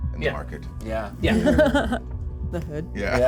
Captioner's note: laughter